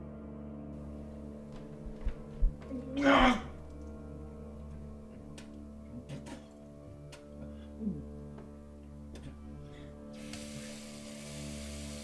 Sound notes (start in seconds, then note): 2.6 grunts